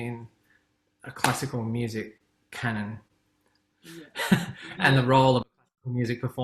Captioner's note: laughs